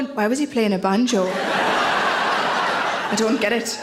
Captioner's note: audience laughs